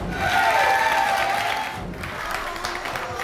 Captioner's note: applause